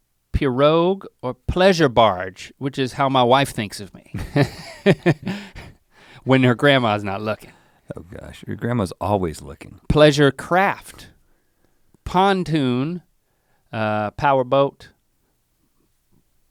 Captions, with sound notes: Pirogue or pleasure barge which is how my wife thinks of me. (chuckles) When your grandma's not looking. - Oh gosh, your grandma's always looking. - Pleasure craft, pontoon, powerboat.